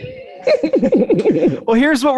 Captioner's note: chuckling